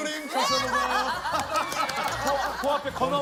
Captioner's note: seal clap